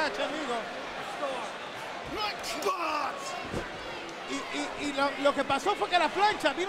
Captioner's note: applause